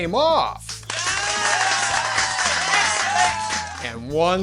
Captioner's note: audience Applause